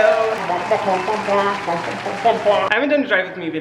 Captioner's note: people applauding